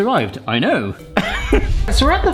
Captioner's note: laughing